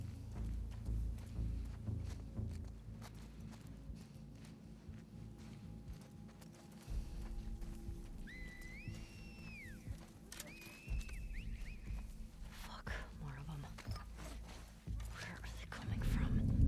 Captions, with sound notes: (whistle) (whistles) Fuck.. more of 'em. Where are they coming from?